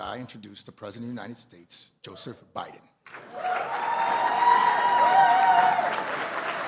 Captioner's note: cheers and applause